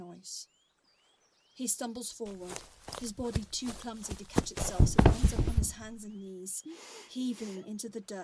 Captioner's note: A heavy thud